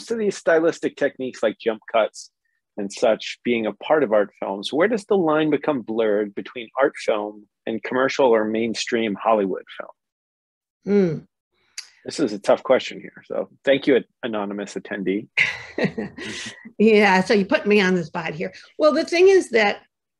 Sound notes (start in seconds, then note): 11.0 laughter